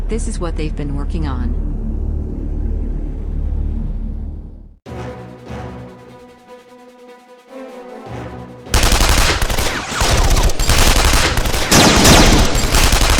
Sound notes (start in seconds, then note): 4.9 dramatic orchestral music; 8.7 guns blasting